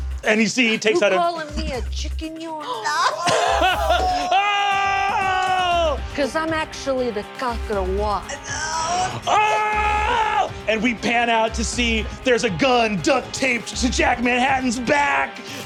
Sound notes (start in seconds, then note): 3.0 players shouting; 8.4 screams